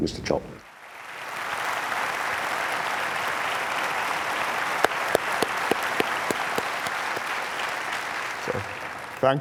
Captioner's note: applause